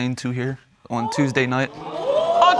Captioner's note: audience gasps